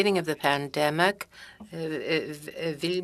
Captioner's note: speaking French